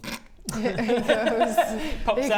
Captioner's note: unsympathetic laughter